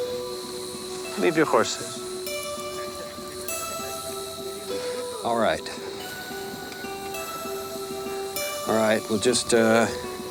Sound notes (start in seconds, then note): 2.8 gang members chuckle